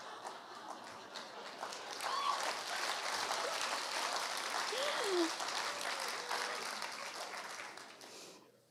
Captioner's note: long applause